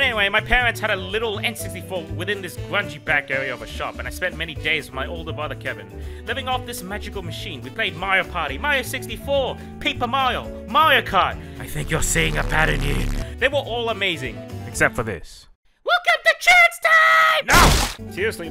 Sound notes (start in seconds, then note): 0.0 in a sad lower pitch voice; 11.2 whispering Voice; 15.2 raspy Toad Voice; 16.4 SMG4 Yelling